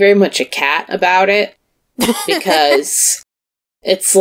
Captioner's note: laughs